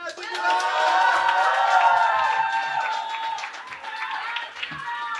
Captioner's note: cheering